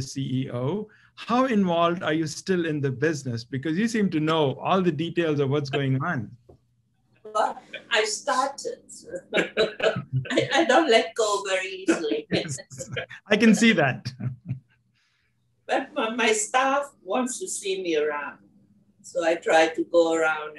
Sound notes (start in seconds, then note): 6.1 laugh